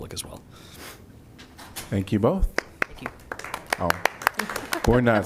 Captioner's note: applause